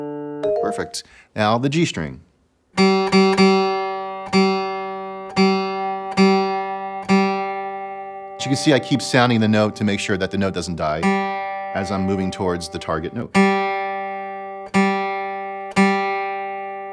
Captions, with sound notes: (app chiming) Perfect, now the G string. (guitar strumming) As you can see, I keep sounding the note to make sure that the note doesn't die as I'm moving towards the target note. (guitar strumming)